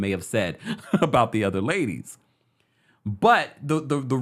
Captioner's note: laughs